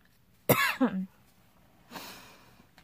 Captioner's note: coughs